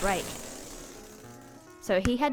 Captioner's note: ball deflating